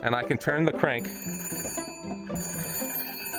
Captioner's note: phone ringing through microphone